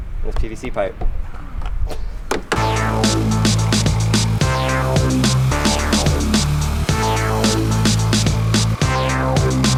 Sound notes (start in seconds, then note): 2.3 tap; 2.5 upbeat music